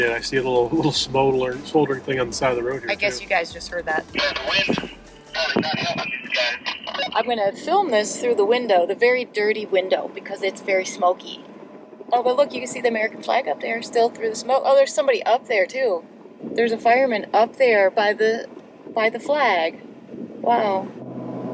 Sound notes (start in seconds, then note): 6.0 radio off-mic